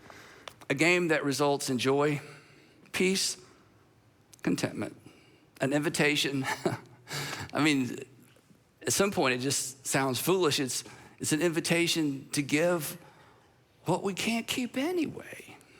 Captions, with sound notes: A game that results in joy, peace, contentment, an invitation. (chuckles) I mean, at some point it just sounds foolish. It's an invitation to give what we can't keep anyway.